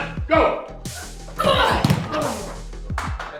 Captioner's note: groaning